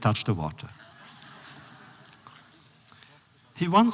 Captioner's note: laughter